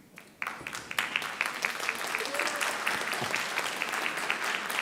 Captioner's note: audience applauding